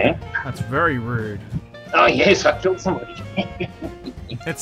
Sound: laughter

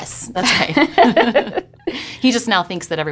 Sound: laughing

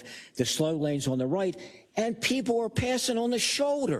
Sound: none

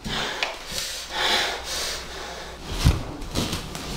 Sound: heavy breathing

